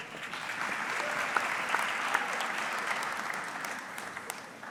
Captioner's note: audience clapping